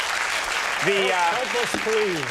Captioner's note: audience clapping